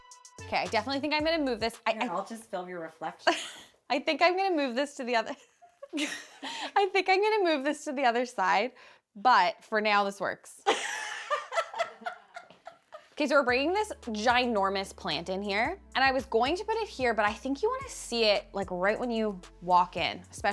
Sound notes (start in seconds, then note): 5.4 laughs; 10.7 group laughing